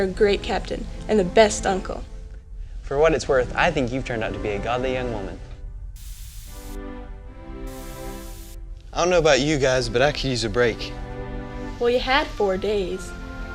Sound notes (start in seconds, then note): 6.0 door hisses